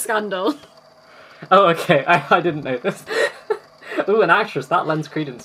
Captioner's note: laughing